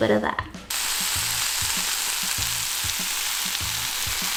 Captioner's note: sizzling sound